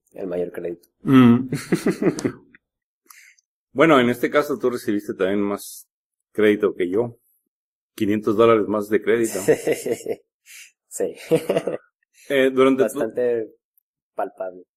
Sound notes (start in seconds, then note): 1.1 laughs; 9.2 laughs